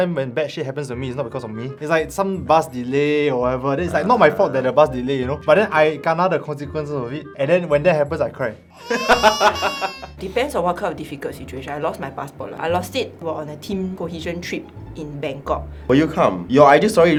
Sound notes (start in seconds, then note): 8.8 villain laughter